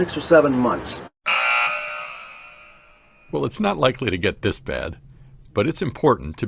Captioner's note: buzzer sounds